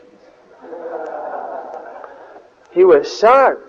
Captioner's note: devotees laugh